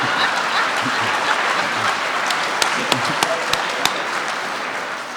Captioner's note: audience applauding